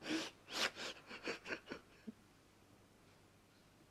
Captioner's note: he sobs